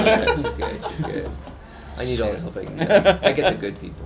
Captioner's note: laughter